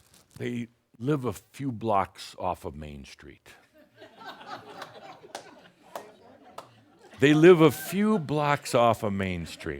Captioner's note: some chuckles